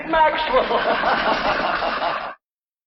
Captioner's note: laughter